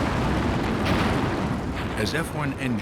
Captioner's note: explosion